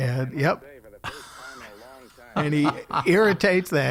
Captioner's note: laughing